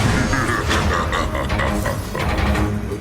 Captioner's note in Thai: เสียงหัวเราะชั่วร้าย